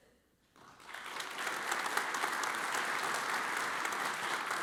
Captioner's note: audience applauds